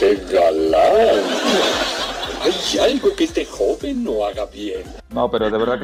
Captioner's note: laughs